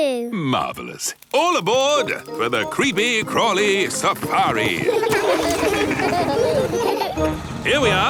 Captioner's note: laughing